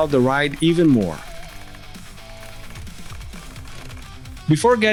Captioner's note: bicycle Sounds